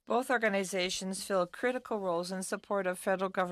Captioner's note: speaking in French